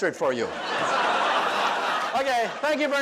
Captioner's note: audience laughs